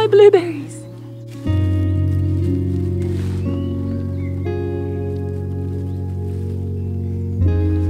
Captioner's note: birds chirping; gentle music